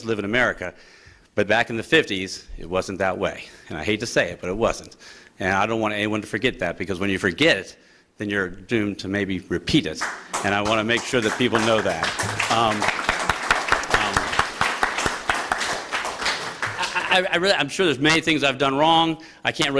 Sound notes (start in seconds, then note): 12.1 applause